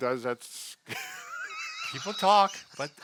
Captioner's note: laughing